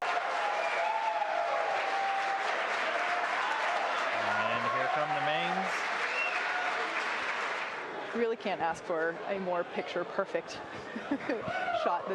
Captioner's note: cheers and applause